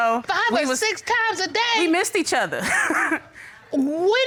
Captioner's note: chuckles